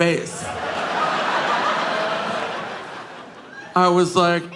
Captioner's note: audience laughing